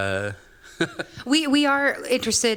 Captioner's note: laughing